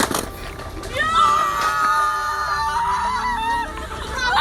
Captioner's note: cheering happily